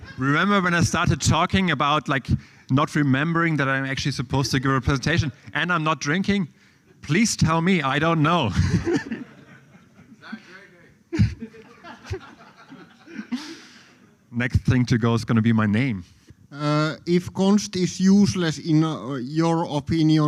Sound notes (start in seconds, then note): 8.4 laughter